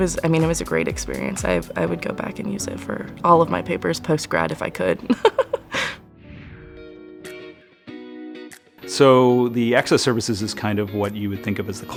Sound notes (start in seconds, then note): 5.0 laughs; 6.2 air whooshes